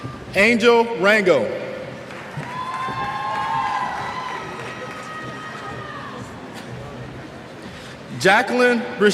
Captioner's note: cheers